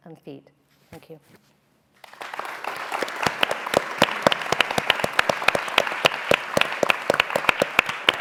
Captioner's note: applause